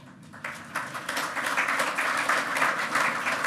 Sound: loud clapping

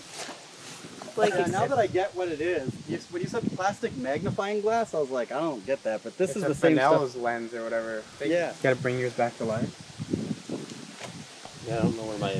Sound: background talking

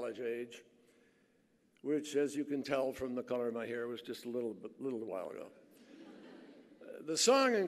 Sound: laughter

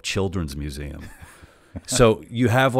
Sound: laughs

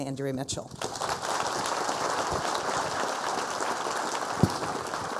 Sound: people applauding

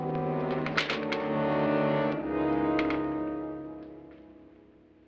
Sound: suspenseful music; door rattles

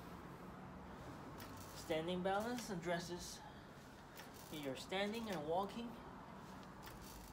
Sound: weight shifting

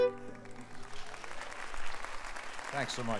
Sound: audience applauding

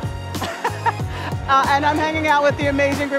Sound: laughing

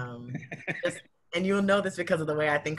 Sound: laughs

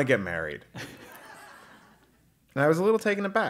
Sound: laugh

